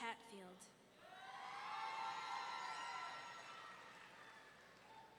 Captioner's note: audience cheering